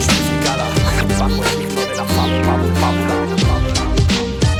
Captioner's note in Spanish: Scratch